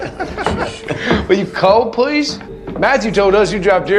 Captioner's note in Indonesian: tertawa